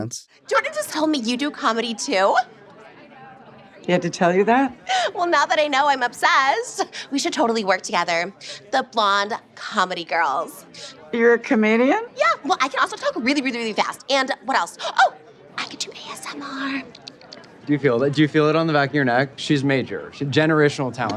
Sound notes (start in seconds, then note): 15.1 whispers; 16.3 quietly clacking